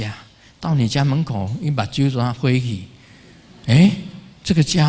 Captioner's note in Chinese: 台語